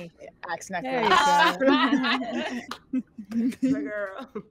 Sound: all laughing

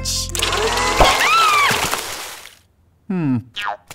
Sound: screams

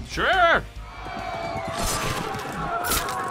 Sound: crowd cheering; swords slicing

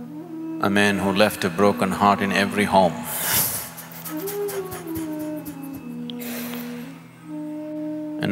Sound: laughs

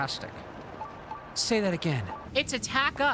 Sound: Fant4stic Reed Richards Voice

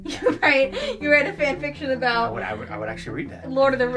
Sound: laughs

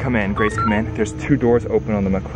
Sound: digital beeps

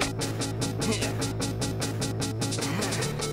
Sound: whippy grunts

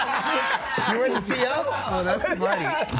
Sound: laughter

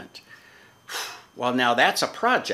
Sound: exhaling

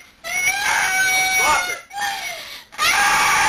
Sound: wailing

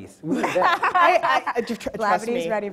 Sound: laughs

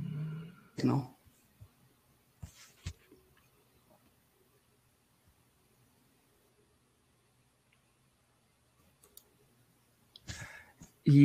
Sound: audio cuts out

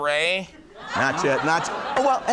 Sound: crowd laughs

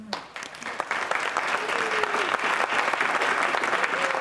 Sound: applause

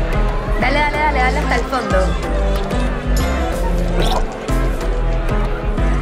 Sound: speaking in foreign language

